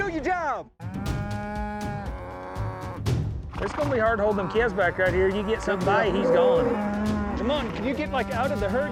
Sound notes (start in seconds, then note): 2.2 cows mooing